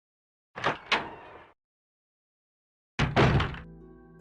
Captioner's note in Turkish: Kapı açılma sesi